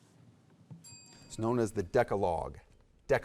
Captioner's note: bell dings